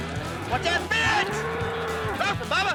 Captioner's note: cow grunting